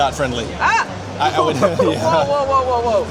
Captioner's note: laughs